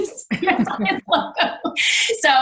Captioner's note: laughs